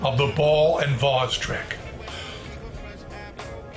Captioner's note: inhales sharply